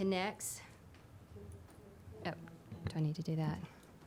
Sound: speaking faintly

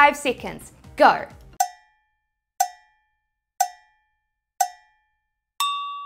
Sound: cowbell timer tinging; high-pitched bell dings

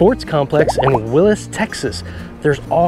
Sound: texts burbling

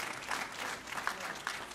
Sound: applause

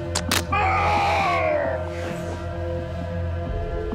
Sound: Frank grunts

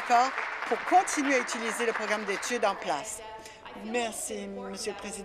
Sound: applause

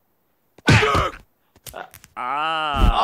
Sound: Homer screams

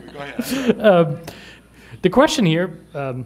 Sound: laughter

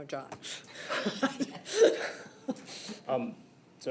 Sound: laughs

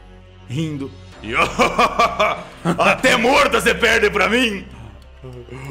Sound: laughing

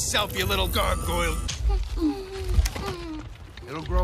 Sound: groot whimpering

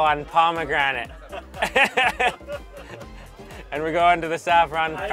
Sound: laughter

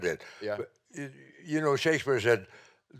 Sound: stammering

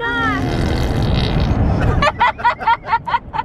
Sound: blowing raspberries; laughing

